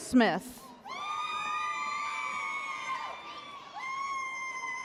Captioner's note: spectators whooping